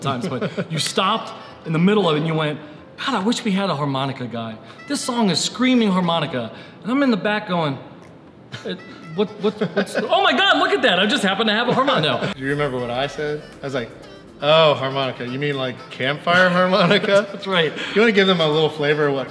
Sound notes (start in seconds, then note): 16.4 laughing